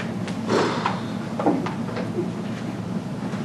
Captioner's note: blows air